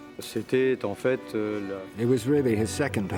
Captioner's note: speaks in foreign language